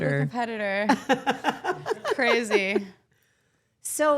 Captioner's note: Steph laughs